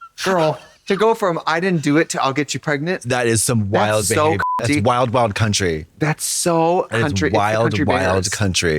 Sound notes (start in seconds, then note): 4.1 beep